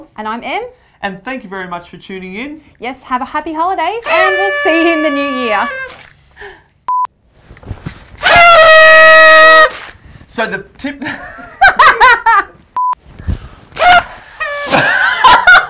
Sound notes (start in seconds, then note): 4.0 horn blows; 8.2 loud horn blowing; 13.4 horn blowing; 13.8 laughing